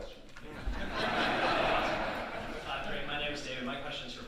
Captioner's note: audience laughing